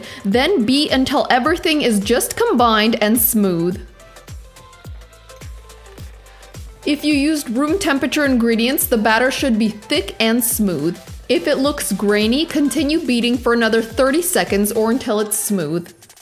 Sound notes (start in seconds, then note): 3.9 mixer hummer; 3.9 soft upbeat music